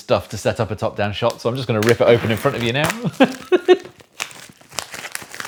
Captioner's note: laughs; packaging rustling